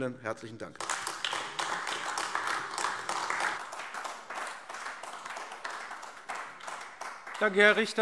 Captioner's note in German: Beifall AfD